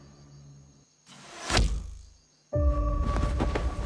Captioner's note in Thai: เสียงลูกดอก